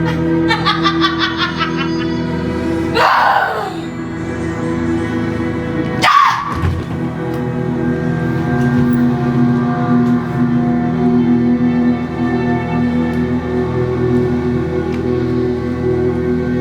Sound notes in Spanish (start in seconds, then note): 0.0 Risas; 2.9 Gritos